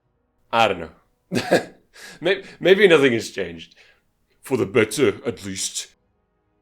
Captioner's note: boorish voice